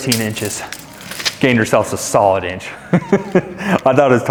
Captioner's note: laughs